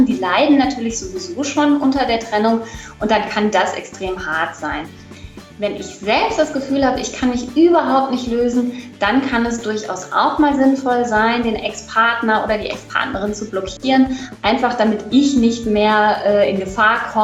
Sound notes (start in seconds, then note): none